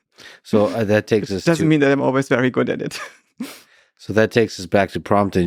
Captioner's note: laughs